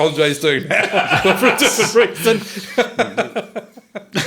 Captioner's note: all laughing